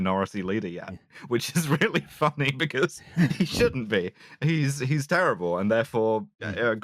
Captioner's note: laughing